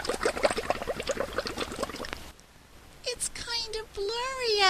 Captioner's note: sound of bubbles in water